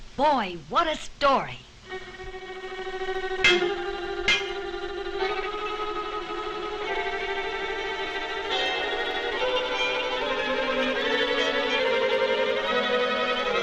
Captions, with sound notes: - Boy, what a story. (suspenseful music) (metal clanks)